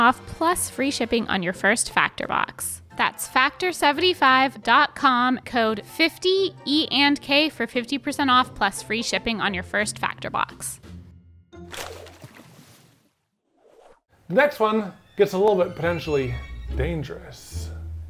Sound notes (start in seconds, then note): 11.8 paper rustling